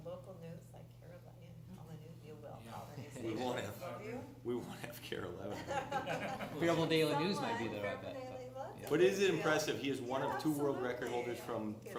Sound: laughter

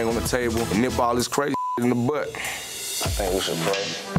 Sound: beep

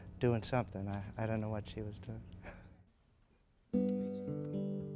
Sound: laughs; gentle music

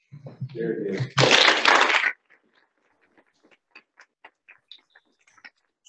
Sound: audience applauding

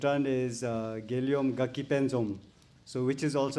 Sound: speaks in foreign language

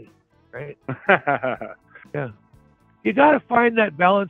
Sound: laughs

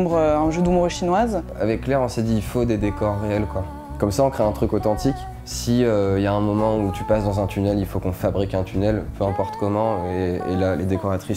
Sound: speaking in french

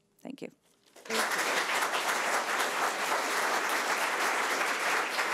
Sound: audience applauding

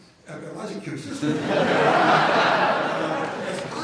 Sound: laughter

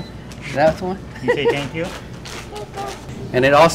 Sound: laugh

